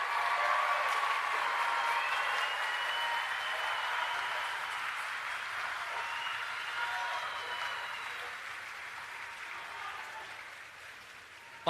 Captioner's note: applause